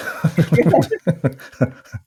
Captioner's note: laughing